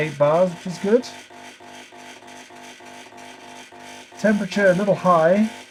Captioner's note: machine surges